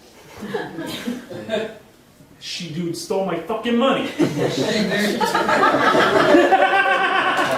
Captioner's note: audience laughing